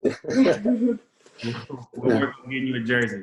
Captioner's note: laughs